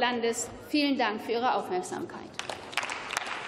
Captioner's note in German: Beifall